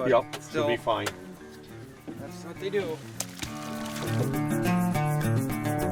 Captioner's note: splash